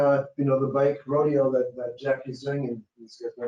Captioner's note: speaking faintly